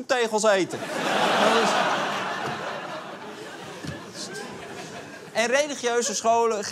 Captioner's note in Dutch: Gelach